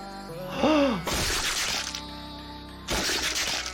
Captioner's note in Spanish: música intensa; el doctor jadea